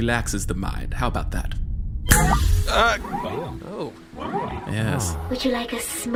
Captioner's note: snaps fingers, the crew make pleasantly surprised noises